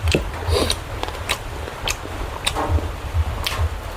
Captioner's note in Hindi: नाक से की जाने वाली आवाज़